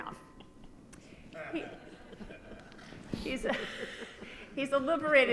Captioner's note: audience laughs